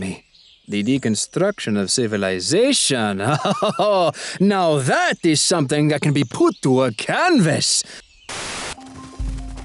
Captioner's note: chuckles